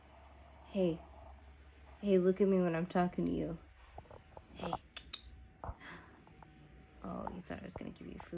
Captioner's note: clicks tongue